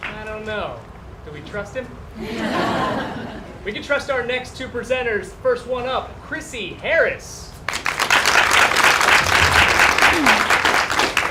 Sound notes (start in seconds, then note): 2.2 laughter; 7.6 applause